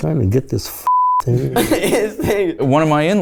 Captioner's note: laughs